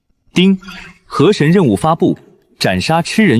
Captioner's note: ding!